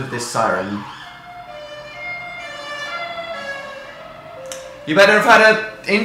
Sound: loud emergency siren

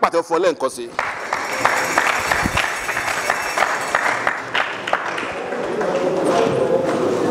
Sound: round of applause

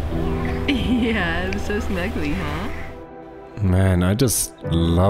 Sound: laughing

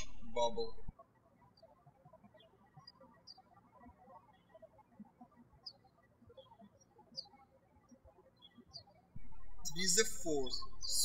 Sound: birds chirping

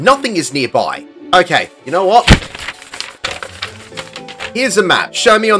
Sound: paper being fumbled

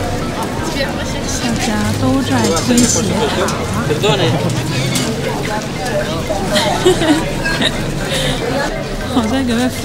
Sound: laugh

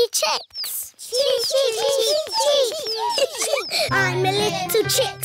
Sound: children imitating chicks

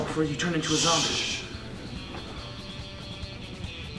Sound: Ed shushing

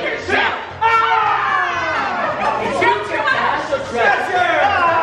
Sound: yelling

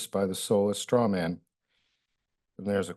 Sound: pause

